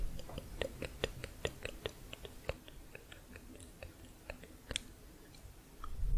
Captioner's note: tongue clicking